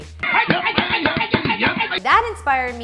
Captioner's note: men shouting